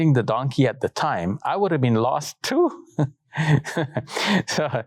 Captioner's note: laughs